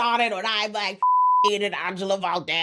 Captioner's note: beep